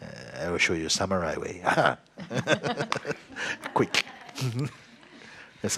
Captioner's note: laughs; laughs